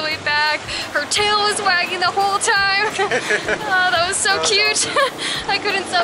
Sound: laughter

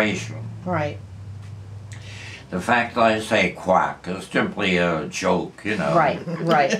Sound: laughter

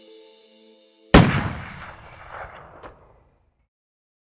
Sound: gun shot

